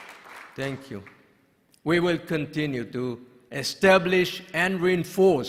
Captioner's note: applause